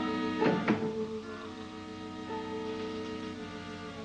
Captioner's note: ominous music; door closes